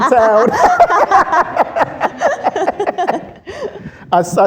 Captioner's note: laughter